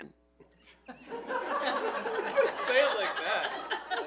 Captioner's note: all laughing